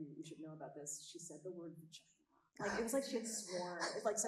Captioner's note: chuckling